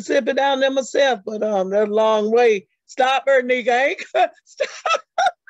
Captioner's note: chuckles